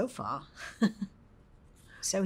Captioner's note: chuckles